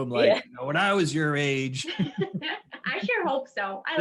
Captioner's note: laughs